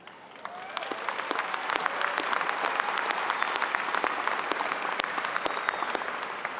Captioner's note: audience applauding